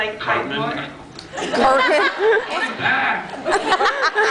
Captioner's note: laughs